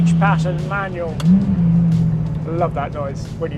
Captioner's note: engine revving; gear stick clicks